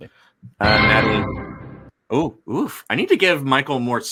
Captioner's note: bell bangs